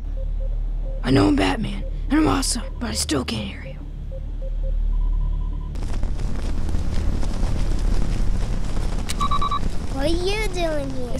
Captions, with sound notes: I know I'm Batman, and I'm awesome, but I still can't hear you. [comm device beeps] What are you doing here?